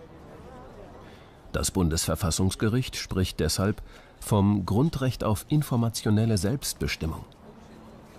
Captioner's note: German